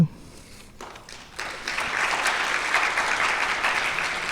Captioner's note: audience clapping